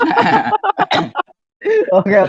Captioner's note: laughs